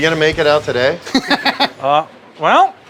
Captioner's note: laughing